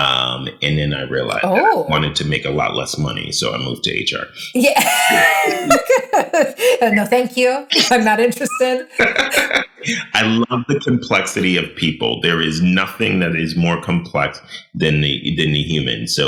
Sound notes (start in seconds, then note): 4.5 laughing